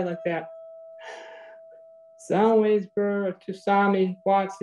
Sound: exhales loudly

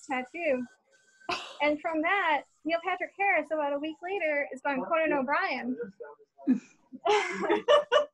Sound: laughter

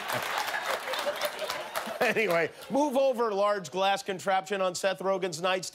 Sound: cheers and applause

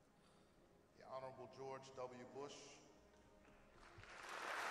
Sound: applause

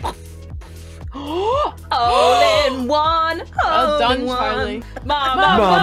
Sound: gasp

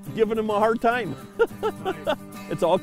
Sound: laughs

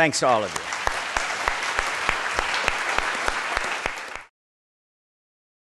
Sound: participants applauding

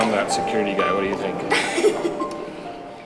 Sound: laughing

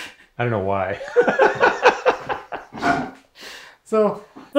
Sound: both laugh

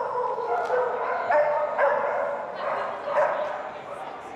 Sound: dogs barking

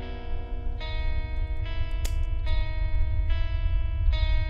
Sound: gun cocks

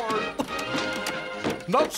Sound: distant Goofy chuckling

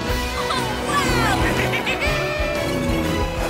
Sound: giggling

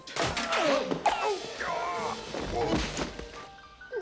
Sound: groans

